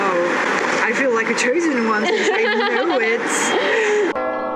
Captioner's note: laugh